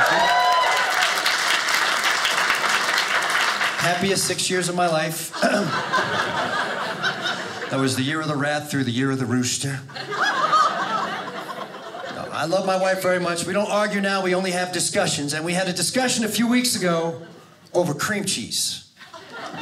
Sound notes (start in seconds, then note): 0.0 audience cheers; 5.1 audience laughing; 9.8 audience laughing